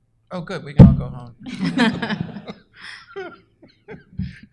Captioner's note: laughter